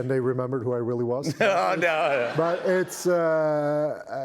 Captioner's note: laughter